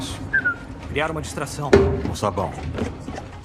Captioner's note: whistles